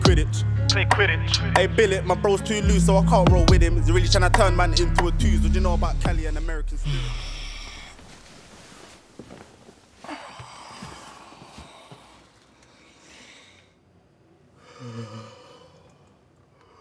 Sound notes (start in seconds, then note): 10.0 sighs; 14.6 yawns